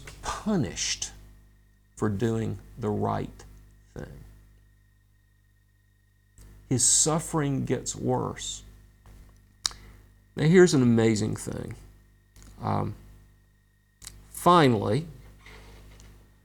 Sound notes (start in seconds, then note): 9.6 smacks lips